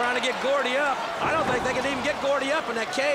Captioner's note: crowd cheering